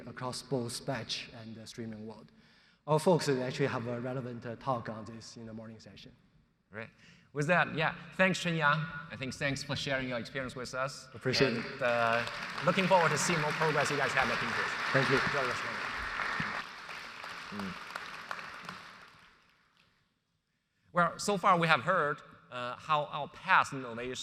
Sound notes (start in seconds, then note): 12.7 audience applauds